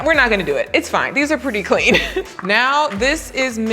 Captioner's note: chuckles